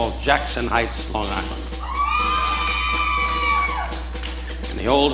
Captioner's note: audience cheering